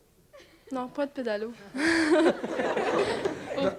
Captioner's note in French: rires